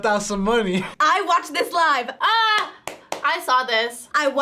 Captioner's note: claps